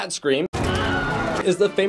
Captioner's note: scream